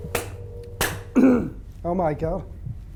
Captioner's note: clapping; clearing throat